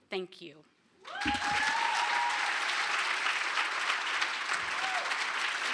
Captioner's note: applause